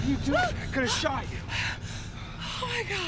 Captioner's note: Jill whimpers